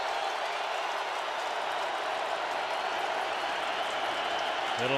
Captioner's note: cheering